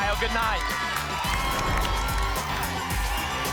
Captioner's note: whoosh; applause and cheering cont